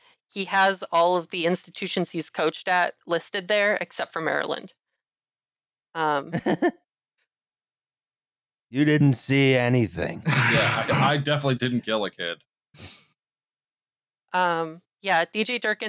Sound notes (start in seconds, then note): 6.3 laughs briefly; 10.2 laughter